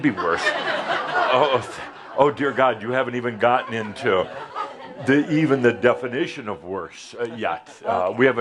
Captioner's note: laughter